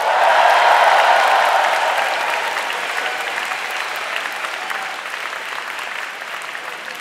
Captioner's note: audience cheering and applauding loudly